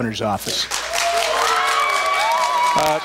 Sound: applause, cheers

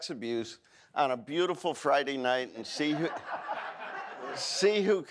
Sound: audience laughs

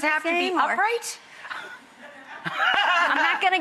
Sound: laughs

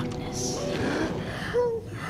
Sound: whimpers

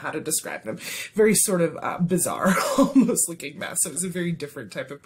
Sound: laughter

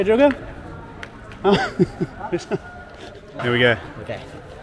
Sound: laughing

